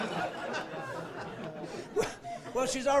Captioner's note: laughing